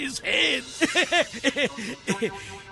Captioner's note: Grandpa Dima laughing